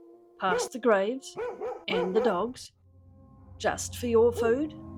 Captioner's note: spooky music; dogs barking and howling